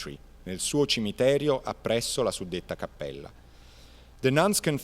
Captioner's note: speaking Italian